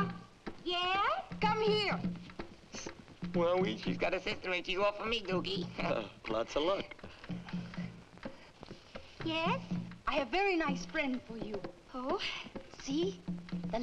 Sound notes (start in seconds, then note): 5.6 laughs; 5.8 chuckles